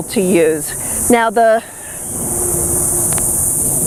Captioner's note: airplane flies overhead